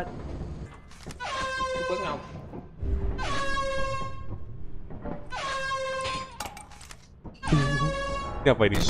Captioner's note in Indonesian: honk part two